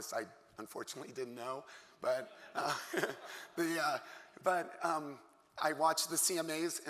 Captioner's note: laughter